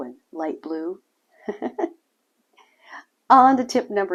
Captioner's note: chuckles